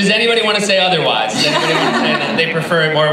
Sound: laughing

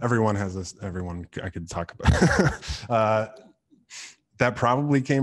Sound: laughs

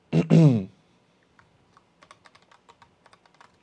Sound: clears throat

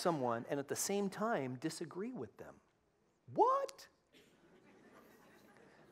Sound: laughter

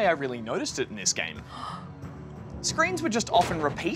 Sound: gasps

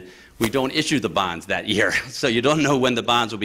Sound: laughter

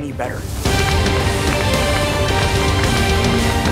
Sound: applauding

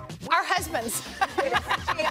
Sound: laughs

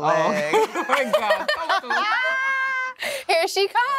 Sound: laughter

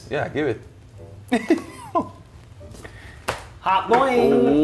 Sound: laugh

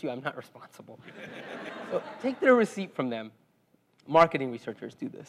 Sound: laugh

